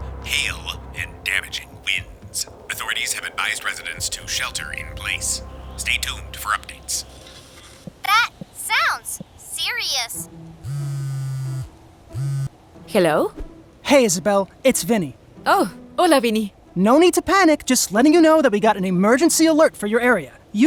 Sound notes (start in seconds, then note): 10.6 phone buzzes